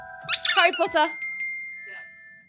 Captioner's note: ball squeaks; bell dings